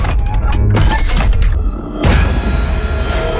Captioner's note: scary sounds